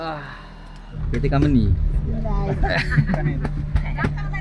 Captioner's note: laugh